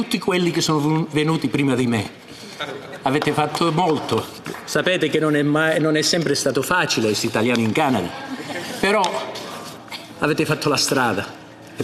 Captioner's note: speaking Italian